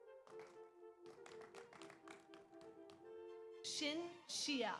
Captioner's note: audience applauds